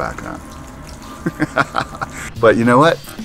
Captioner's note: laughter